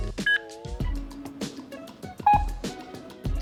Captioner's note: beeping